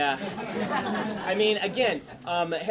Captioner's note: class laughs